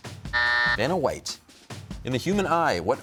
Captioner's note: buzzer sounds